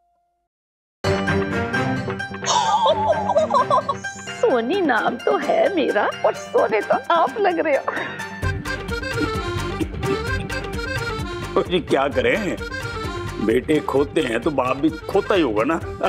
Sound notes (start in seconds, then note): 2.6 laughing; 8.3 comic music playing